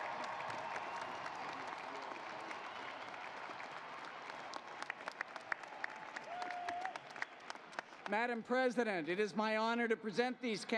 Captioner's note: applause